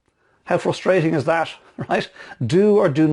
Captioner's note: laughing